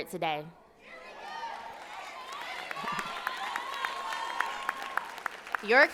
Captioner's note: applause